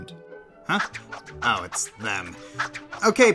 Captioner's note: swoosh